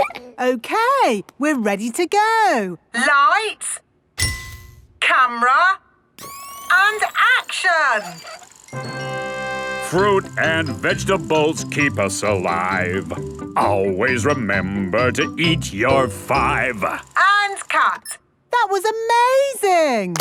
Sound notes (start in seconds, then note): 2.9 through megaphone; 4.5 clicking; 6.2 whirring; 9.0 singing